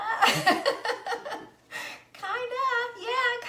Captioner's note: laughs